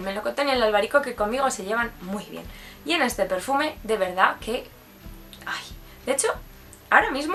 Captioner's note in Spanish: suspiro